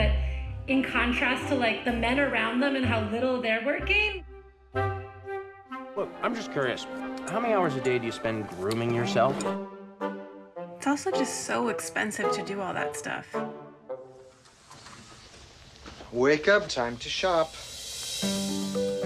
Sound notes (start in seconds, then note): none